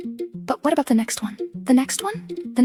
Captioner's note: female voice 1